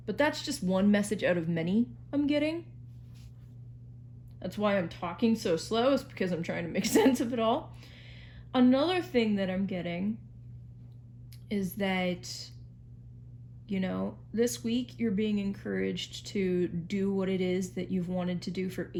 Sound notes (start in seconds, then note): 6.8 chuckles